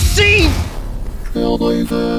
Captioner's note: crashing sound